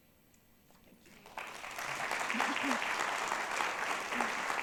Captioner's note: people clapping